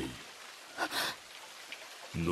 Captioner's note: gasp